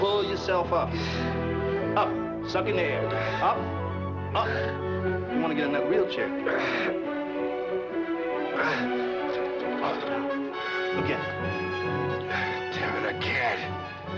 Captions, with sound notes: Pull yourself up. (Roy breathing heavily) Up. Suck in the air. Up. Up. You wanna get in that wheelchair? (Roy grunting heavily) Again. - God damn it, I can't!